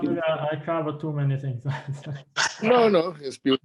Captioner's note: laughs